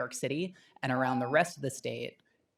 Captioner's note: timer tone